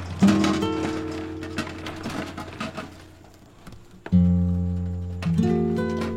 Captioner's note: sound of a cart pulled over an uneven floor